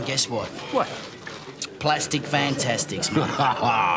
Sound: laughs

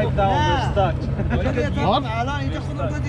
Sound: laughing

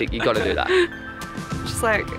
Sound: laughter

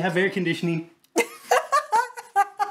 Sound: laughs

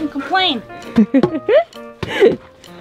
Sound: giggles

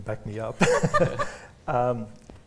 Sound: laughter

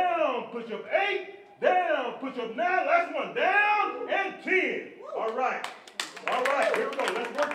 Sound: applause!

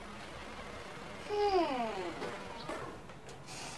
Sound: Pillow hums

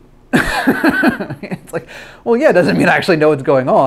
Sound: laughs

